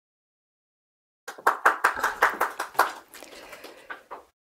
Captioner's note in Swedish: Applåder